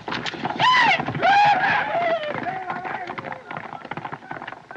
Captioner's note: whooping, Yelling In Spanish